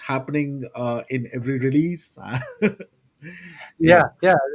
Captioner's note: laughs